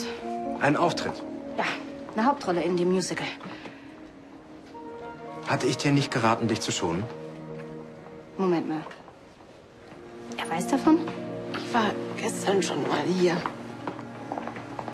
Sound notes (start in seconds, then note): none